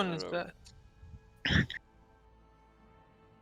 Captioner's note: haha